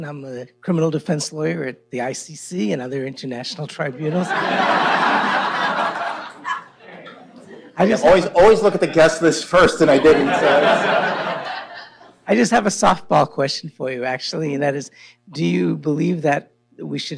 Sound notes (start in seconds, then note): 3.9 laughter